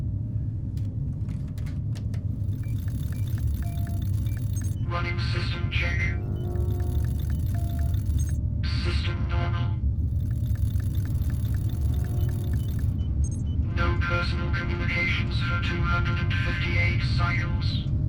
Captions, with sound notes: (keyboard clacks) (computer clicking) Running system check. System normal. (computer clicking) No personal communications for 258 cycles.